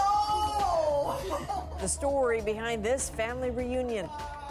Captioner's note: laughter